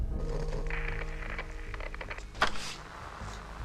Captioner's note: static hisses